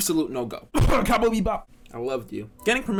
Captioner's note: cough